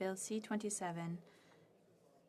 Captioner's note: speaking French